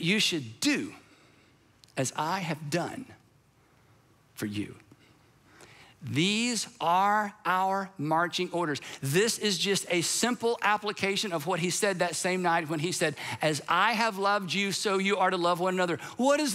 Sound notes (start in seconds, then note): none